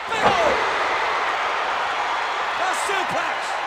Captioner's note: audience cheers